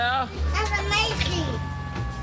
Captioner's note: sirens blaring